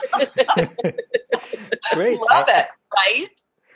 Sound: laughing

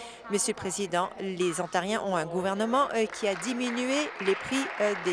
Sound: some Applause

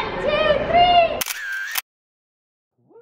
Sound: camera shutter clicks

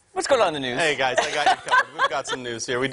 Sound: laughter

